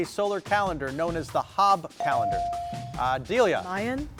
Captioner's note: bell dings